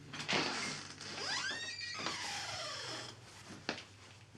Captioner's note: door creaking